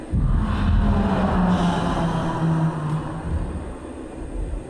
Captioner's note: loud sighing